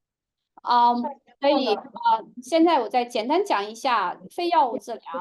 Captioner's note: speaking chinese